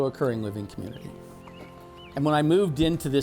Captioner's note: birds chirping